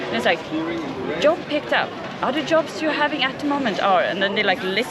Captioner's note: Electronic voice